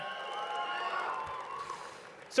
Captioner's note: cheering